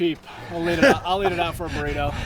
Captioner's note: man laughing